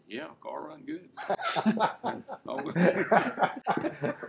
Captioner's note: laughing